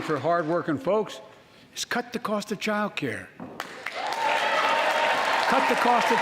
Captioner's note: applause